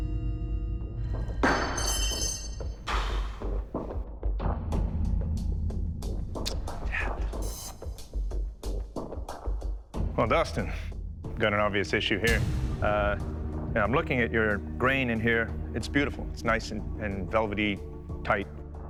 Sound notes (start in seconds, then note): 1.2 metal clangs; 2.7 sighs; 3.9 clicks tongue